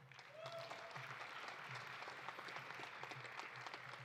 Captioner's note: audience applauding